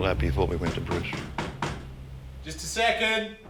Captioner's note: knocking